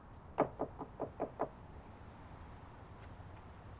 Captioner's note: knocking on door